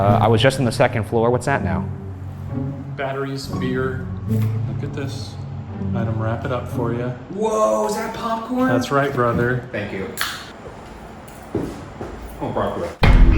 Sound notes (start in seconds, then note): 10.2 drink cap popping; 10.4 footsteps shuffling